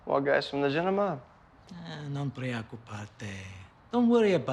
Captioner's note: speaking foreign language